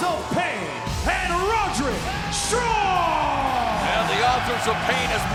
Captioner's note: fans cheering